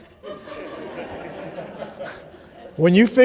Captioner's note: laughter